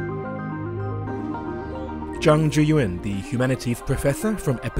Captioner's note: voiceover